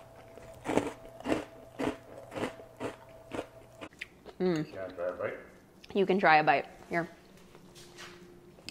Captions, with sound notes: [crunching] - Mmm. - You can try a bite. Here.